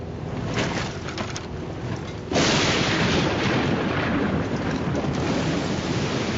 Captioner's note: rattling and thunder crashes